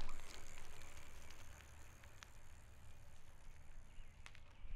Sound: bicycle wheel ratcheting

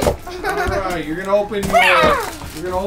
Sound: roaring

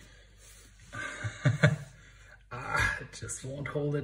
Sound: laughs

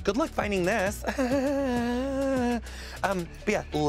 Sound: chuckles nervously

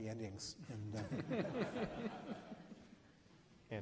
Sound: laughs

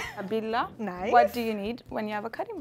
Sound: speaking Amharic

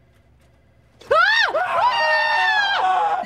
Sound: both scream

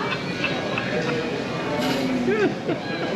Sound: all laugh

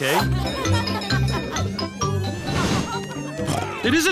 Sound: cheerful jingling; oinks

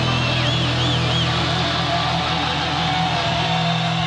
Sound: audience cheers

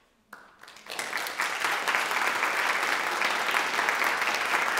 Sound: audience applauding

